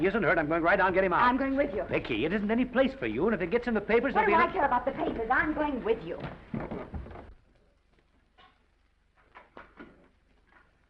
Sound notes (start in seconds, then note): 6.1 footsteps receding